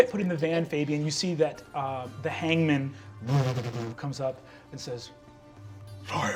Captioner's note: engine revving